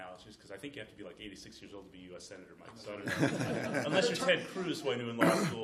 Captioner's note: laughter